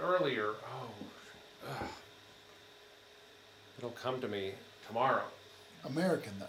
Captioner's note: scoffs